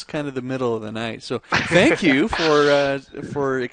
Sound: laughs

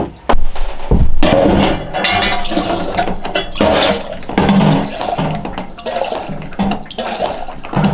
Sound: kettle clattering; water splashing

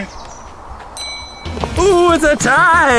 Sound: bell dings

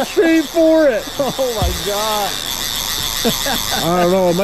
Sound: laughing

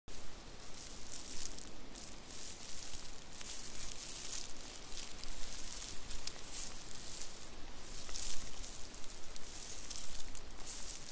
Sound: leaves crinkling

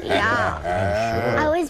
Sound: laughs

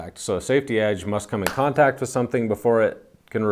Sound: hand smacking

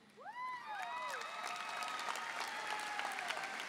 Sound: audience cheering

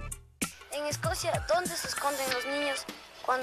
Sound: speaking spanish

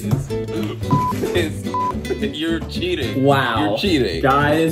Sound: beep

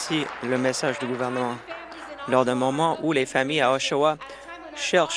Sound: applause

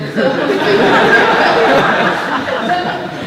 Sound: laughter

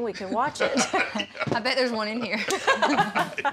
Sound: laughter

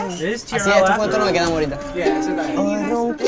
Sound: members speaking Spanish

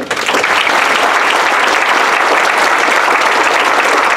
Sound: applause

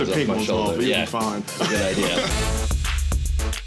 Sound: laughs

